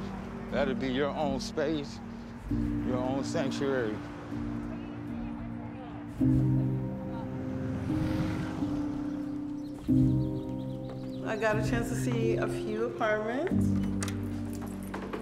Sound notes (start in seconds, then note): 4.4 birds chirping; 4.4 gentle music continues